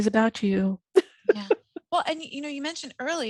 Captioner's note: laughing